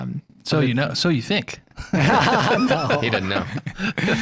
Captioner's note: laughter